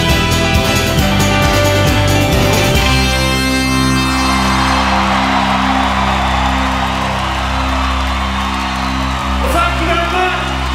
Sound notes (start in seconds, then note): 4.0 crowd cheering